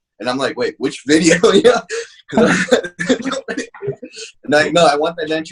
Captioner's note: laughing